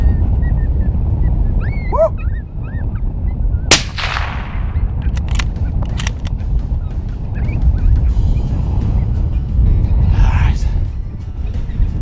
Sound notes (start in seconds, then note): 3.7 gun shot; 3.7 gun clicking